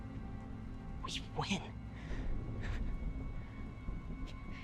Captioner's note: breathes uneasily